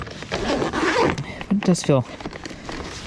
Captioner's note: zipping up